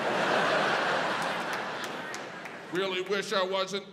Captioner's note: audience laughs